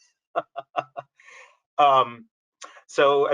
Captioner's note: laughs